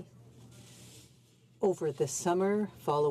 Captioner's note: speaking in french